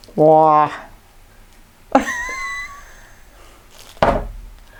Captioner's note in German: lacht